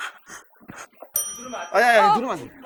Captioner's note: ding